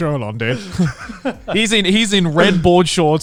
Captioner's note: laughs